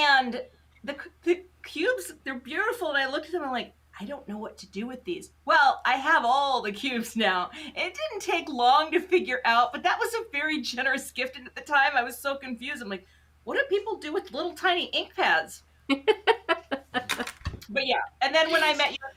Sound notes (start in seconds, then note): 15.9 chuckles